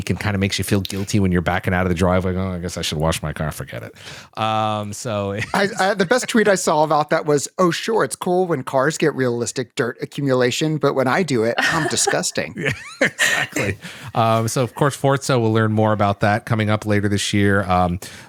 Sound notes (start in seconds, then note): 13.6 laughter